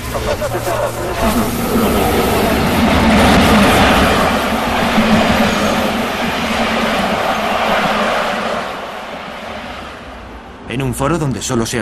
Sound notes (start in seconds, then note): 1.9 static/Noise